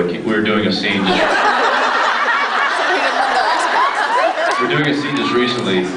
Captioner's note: laughs; scattered laughs